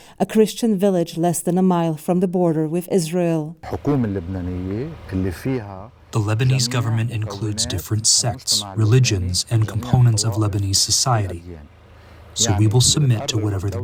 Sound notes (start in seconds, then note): 6.6 through translator